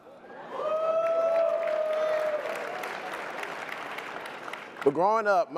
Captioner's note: applause and cheering